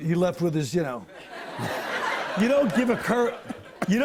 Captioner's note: laughter